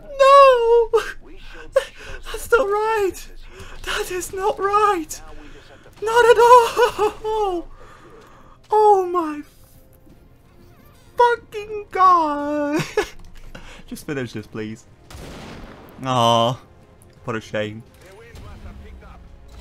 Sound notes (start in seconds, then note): 1.8 gasp; 3.5 gasp; 12.5 chuckle